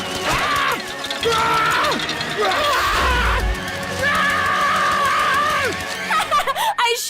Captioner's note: screaming